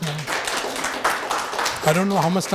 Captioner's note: audience applauding